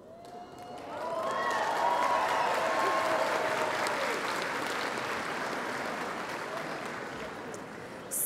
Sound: applause

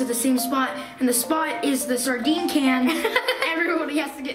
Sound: laughs

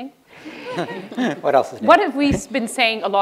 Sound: laughter

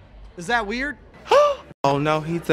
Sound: gasp

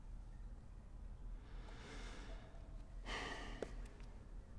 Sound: sighs

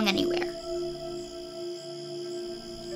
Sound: crickets chirping

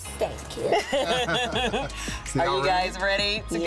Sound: all laughing

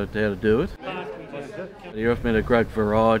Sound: background chatter

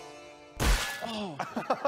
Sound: boink

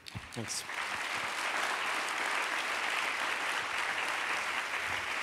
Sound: applause

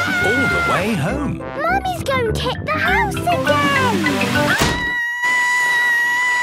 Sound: Mummy Pig screaming

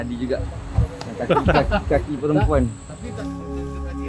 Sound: laugh

